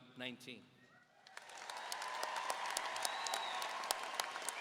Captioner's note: audience applauding